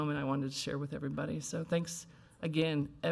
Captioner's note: none